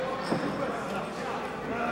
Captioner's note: crowd chatter